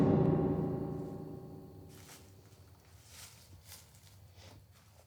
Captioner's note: leaves rustle